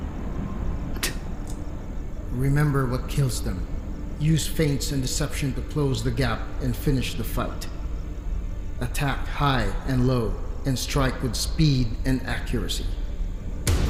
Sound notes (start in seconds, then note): 1.0 spits